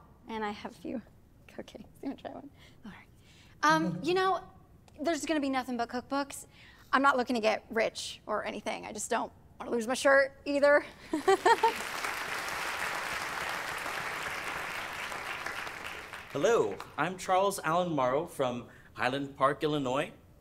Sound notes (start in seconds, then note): 11.1 laughs; 11.2 applause